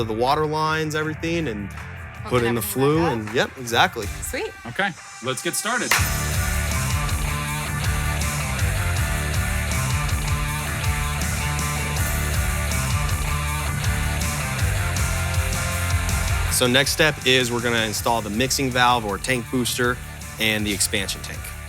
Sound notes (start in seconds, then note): 5.9 claps; 6.0 lively music